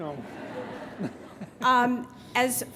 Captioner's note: graduates laughing